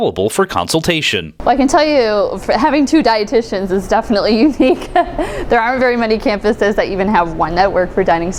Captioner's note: laughs